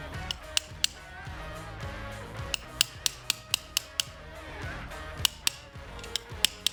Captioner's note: hammering